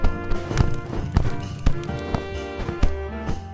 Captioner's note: fire crackles; jazzy instrumental music